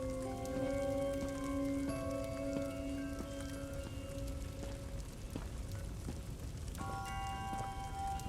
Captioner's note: footsteps